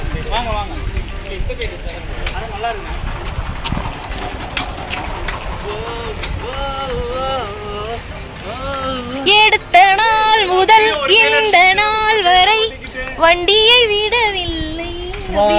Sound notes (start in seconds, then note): 5.7 humming a song; 9.2 singing a song